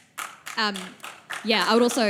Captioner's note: audience applause